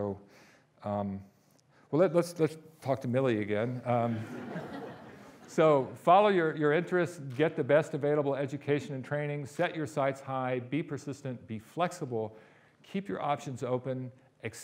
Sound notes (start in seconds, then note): 3.9 audience laughing